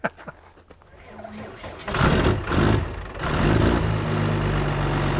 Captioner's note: engine whirring